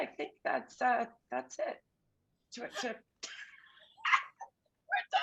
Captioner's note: shared laughter